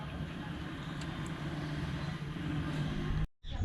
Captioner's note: noise of moving car